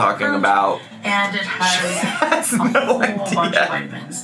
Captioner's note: laughs